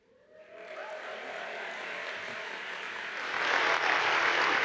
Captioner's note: audience applauds